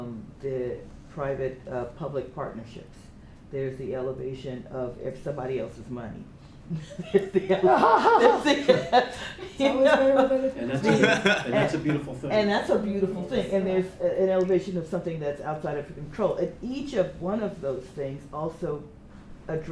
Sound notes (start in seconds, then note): 6.7 laughter